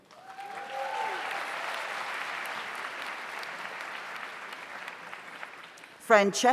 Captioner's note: audience applauds; audience cheers